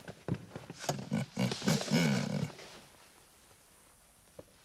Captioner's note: chuckles